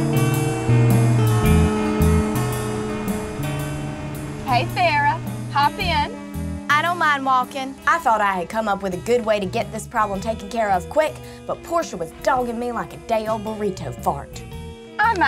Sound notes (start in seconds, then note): 1.8 car engine humming